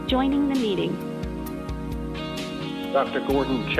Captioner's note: robotic Voice